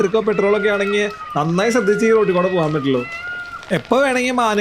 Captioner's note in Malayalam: നിലവിളിക്കുന്നു